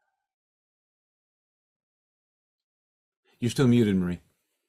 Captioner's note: muted